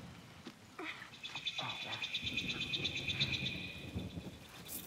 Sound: bird chirping

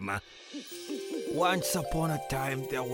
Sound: owl hooting

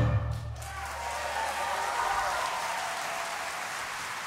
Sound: audience applauding

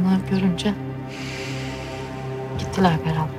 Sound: Aziz exhales

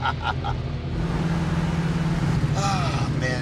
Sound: laughs; sighs

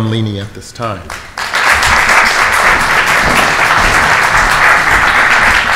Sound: audience applauds

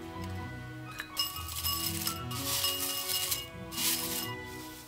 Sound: tea rustles

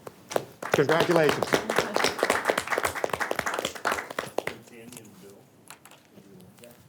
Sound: board members applauds

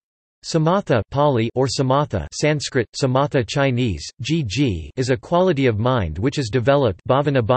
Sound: Pāli

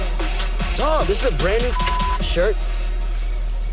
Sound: beep

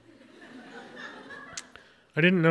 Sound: audience laughs

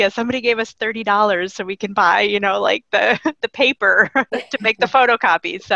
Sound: laughing

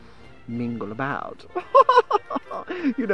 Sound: laughs

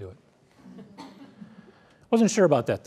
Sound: laughter

